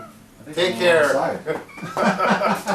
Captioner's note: laughing